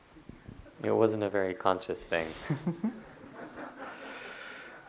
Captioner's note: laughter; audience laughter